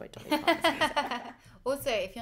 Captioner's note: laughter